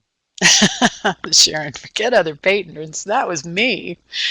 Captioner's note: laughing